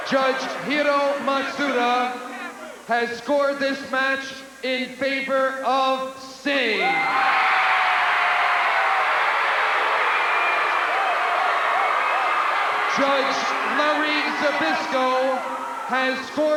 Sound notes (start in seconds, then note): 7.2 crowd cheering